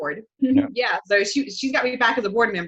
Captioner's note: giggles